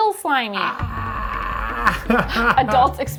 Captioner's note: screams